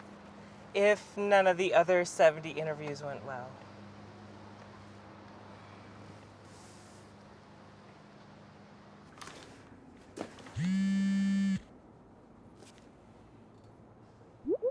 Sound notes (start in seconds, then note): 10.6 phone buzzes